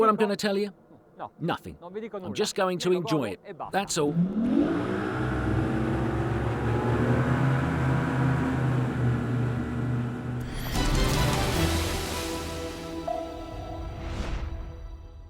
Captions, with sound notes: You know what I'm gonna tell you? Nothing. I'm just going to enjoy it. That's all. (Engine revs)